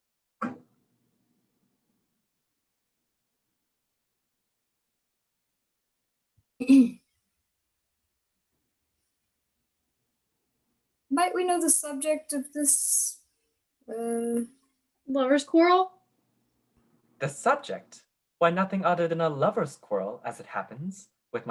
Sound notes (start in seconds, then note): 6.6 little throat clear